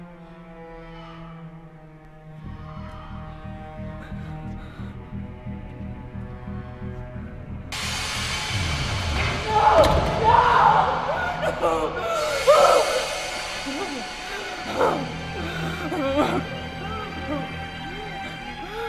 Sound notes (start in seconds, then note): 9.3 door shuts; 11.8 Carrie crying